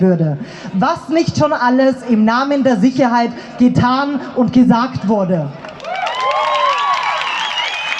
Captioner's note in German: Applaus